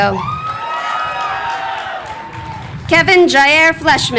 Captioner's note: crowd cheering